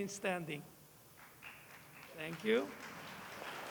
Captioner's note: applause